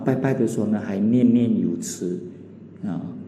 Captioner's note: hokkien dialect